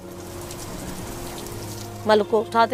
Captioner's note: rain